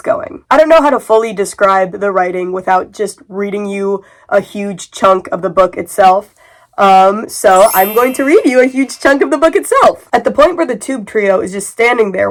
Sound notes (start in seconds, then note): 7.5 magical sound effect